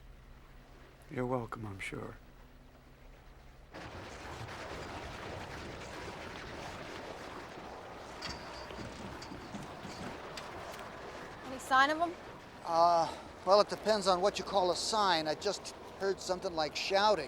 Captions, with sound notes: YOU'RE WELCOME, I'M SURE. [ Churning Sound Continues ] ANY SIGN OF 'EM ? UH, WELL IT DEPENDS ON WHAT YOU CALL A "SIGN." I JUST HEARD SOMETHING LIKE SHOUTING,